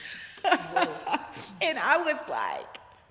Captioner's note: laughing